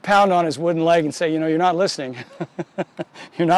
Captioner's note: laughs